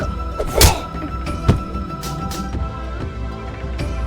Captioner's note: kick thudding